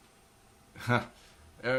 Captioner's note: laugh